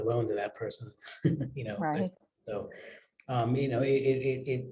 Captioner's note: laugh